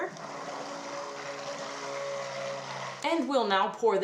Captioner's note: motor whirring